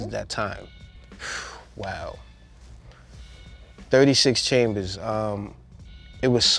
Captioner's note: blows air